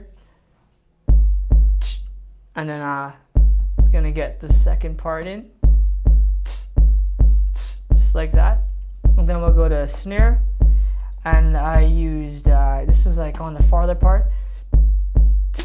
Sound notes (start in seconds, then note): 1.8 imitates snare; 6.1 plays beat and imitate snares; 14.7 imitates snare